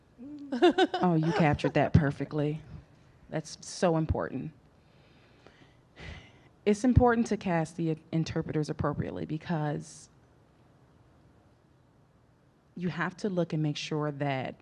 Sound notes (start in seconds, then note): 0.3 laughing